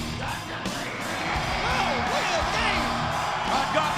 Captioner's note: audience cheering